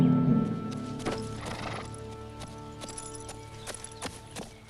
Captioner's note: horse snorts